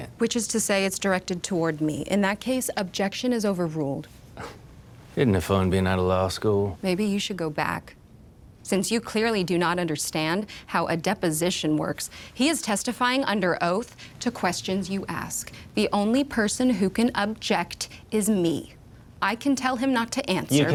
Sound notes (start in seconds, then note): 4.6 scoffs